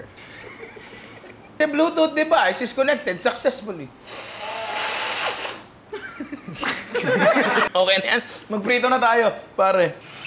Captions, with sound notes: [chuckles] The bluetooth device has connected succesfully. [laughter] That'll do. Let's get frying.